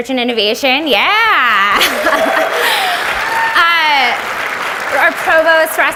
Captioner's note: audience applauds